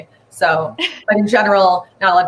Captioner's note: laughs